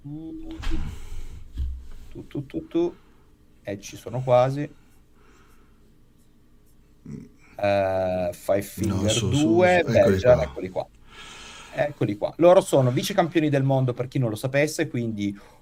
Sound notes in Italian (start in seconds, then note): 7.1 schiarire la voce